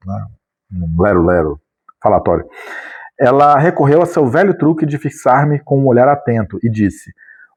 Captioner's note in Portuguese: suspirando